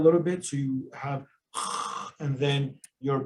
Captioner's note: snorts